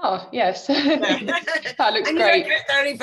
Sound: laughs

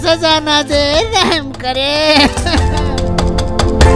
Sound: sobbing

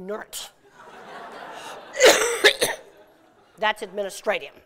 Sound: laughter

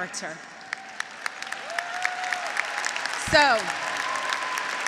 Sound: graduates applauding; graduates cheering

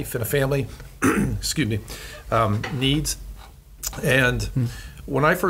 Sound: coughs

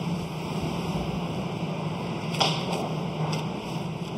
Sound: machine hums in the background

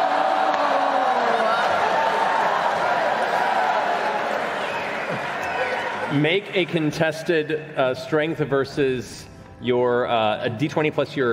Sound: cheering

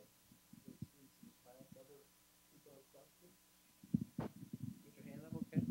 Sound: speaking off microphone

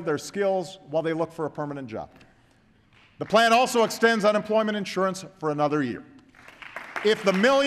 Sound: applause

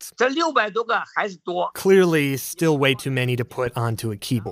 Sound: speaking Mandarin

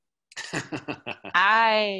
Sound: laughing

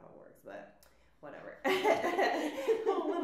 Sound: laughs

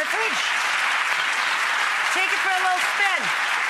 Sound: audience applause

